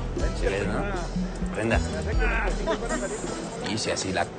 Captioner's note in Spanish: Risas